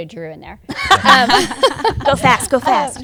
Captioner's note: laughter